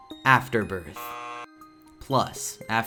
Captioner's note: error sounds